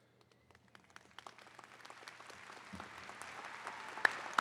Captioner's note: attendees clapping